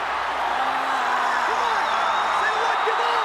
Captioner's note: Steve yelling